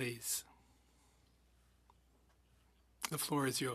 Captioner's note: speaking French